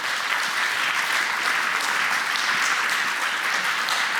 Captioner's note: applause